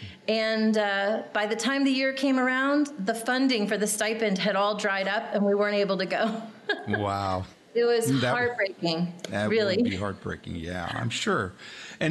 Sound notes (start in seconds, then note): 6.6 laughing